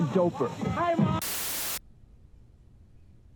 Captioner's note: Static